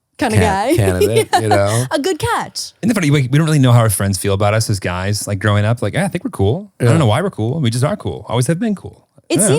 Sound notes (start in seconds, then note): 0.2 laughing